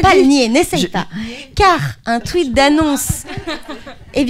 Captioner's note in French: rires